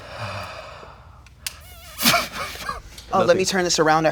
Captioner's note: muffled laughter